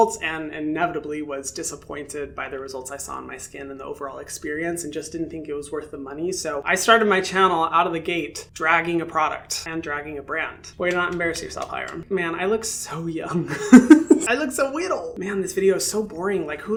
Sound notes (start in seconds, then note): 13.4 laughs